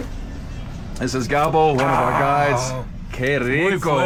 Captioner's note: exhales